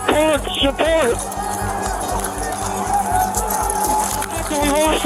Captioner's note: shouting